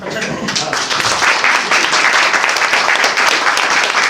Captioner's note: applause